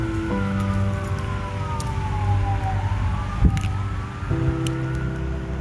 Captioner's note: siren sound getting closer